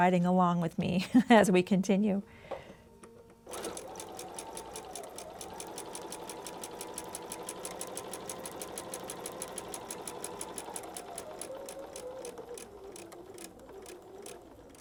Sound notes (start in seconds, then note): 3.4 sewing machine whirring